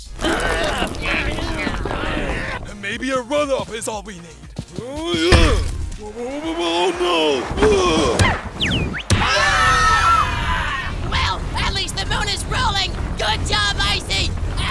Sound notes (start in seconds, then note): 0.0 everyone grunts; 7.5 snowball screams; 9.1 everyone screams